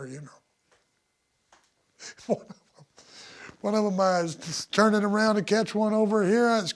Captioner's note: laugh